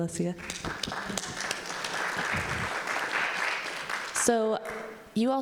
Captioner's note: audience applauding